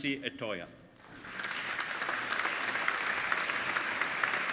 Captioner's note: applauding